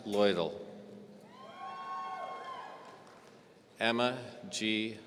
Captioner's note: audience cheering